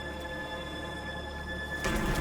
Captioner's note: wings flapping